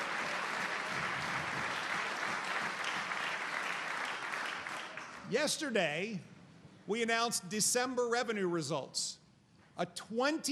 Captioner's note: applause